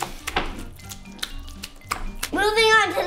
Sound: slimy slaps

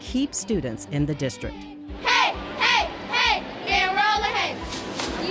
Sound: cheerleaders cheer

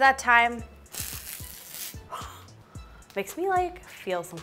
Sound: tape peeling

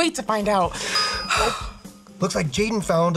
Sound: dinging

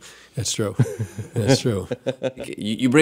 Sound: Jordan laughing

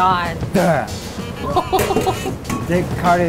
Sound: laughs

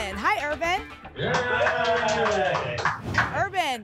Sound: applause and cheering

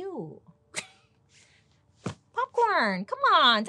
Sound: chuckles

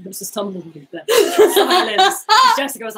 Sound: laughing

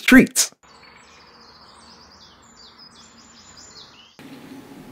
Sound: birds chirping

